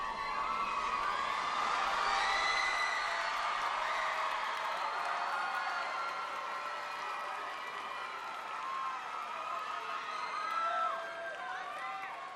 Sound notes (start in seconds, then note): 1.5 cheers and applause